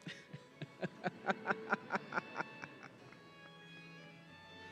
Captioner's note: laughing